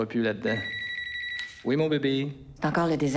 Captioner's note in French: sonnerie de cellulaire